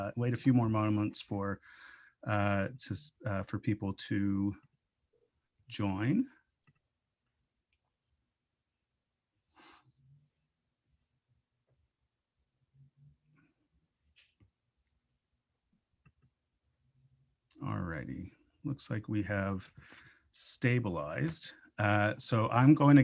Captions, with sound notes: Wait a few more moments for, uh, for people to join. [Inhales] Alrighty, looks like we have stabilized. So I'm going to